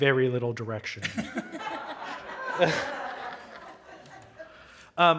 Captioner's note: audience laughing